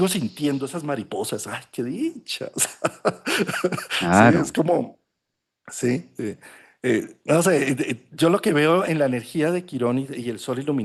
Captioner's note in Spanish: risas